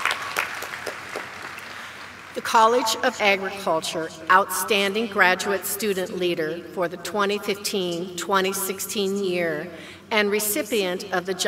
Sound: applause

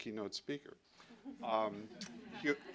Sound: laughter

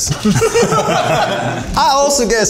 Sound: all laughing

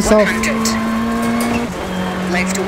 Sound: engine revving

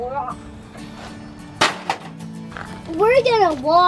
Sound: clanking

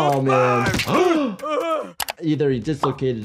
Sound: snapping; gasping

